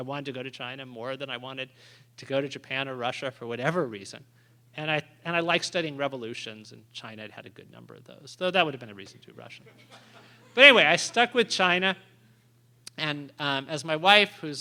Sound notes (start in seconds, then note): 9.6 laughter